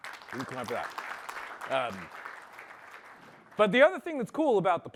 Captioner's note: applause